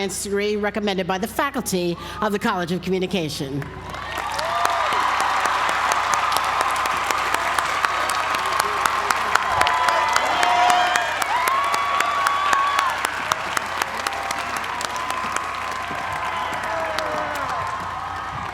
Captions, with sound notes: Science degree recommended by the faculty of the College of Communication. >> [APPLAUSE]